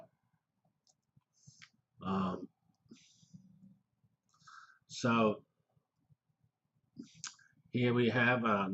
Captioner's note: pause